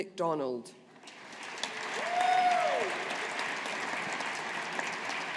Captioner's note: audience applauding